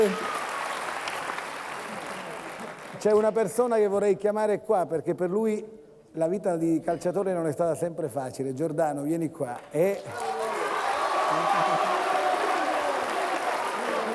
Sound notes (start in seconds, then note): 10.0 Applauso